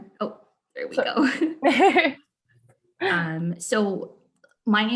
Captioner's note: laughing